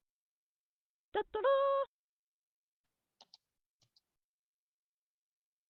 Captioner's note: jovial sound effect